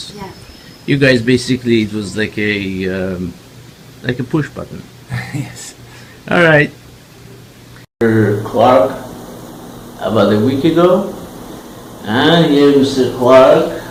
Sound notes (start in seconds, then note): 5.1 laugh